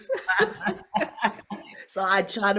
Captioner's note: both laugh